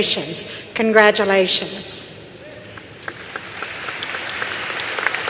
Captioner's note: applause